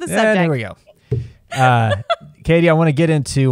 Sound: laughs

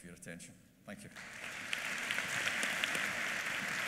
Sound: applause

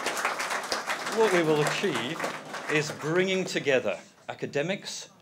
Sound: applause

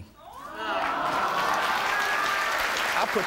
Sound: audience applauding and cheering

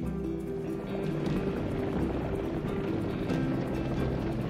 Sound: somber music; crowds rushing

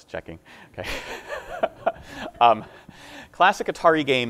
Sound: laughing

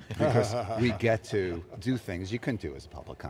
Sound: laughing

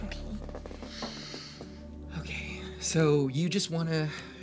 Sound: X inhaled deeply

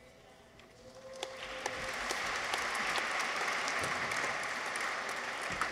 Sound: audience applauds

